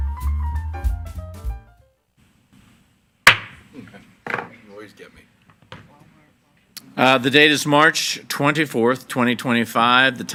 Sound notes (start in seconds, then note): 3.2 gavel banging